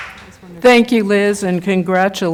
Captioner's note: applause